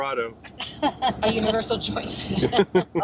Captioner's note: laughs